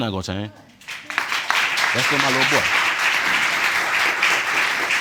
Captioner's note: audience applauding